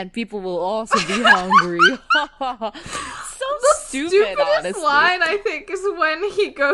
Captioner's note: laughing